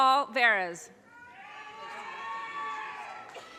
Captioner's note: audience cheers and applause